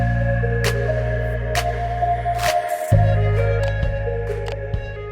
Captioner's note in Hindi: तालियां